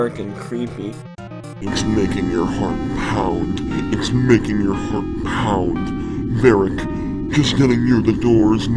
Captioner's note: in a spooky voice